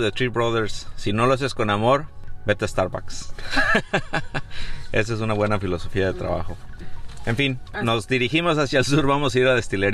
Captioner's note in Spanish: risas